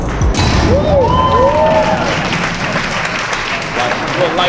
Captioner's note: spectators applauding